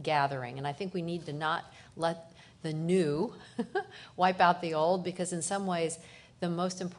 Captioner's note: laughter